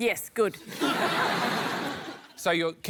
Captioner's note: laughter